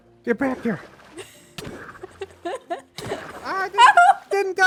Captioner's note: laughs